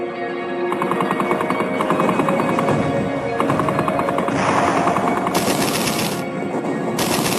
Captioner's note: artillery fires; guns firing rapidly